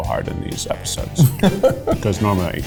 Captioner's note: chuckles